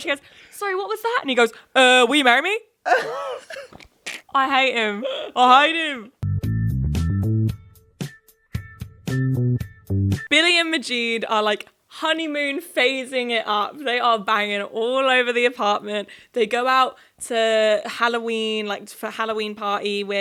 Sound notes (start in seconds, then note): 2.9 snickering; 6.3 upbeat music